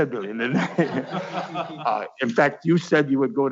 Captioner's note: laughing